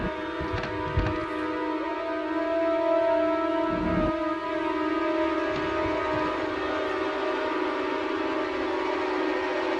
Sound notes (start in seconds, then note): 0.7 floor creaks upstairs; 5.7 floor creaks upstairs